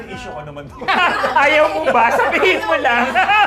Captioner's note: laughing